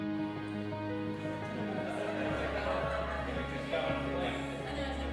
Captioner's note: laughter